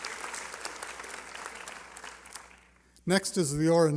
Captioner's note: applause